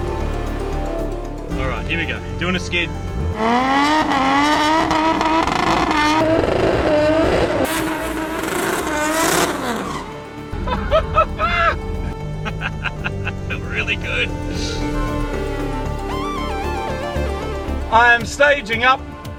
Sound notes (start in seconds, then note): 10.6 laughing